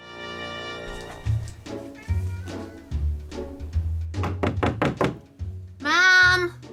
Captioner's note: knocking